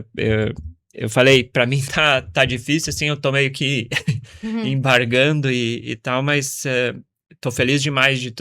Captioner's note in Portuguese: risadas